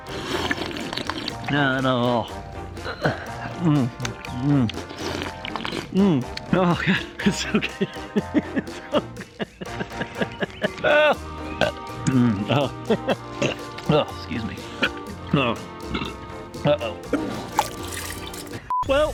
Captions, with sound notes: *slurp* oh that's so good *burping foreshadows vomiting* eh oh 'scuse me *burps*uh oh *throws up*